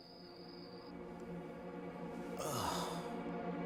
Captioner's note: ben sighs